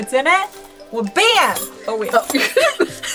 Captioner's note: metal jingling